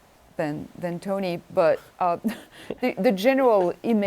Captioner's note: chuckles